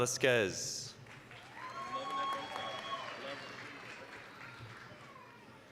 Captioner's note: applause, cheering